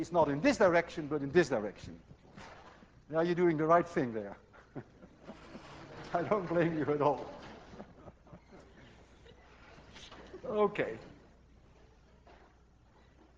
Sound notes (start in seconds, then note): 1.2 class laughs; 4.3 chuckling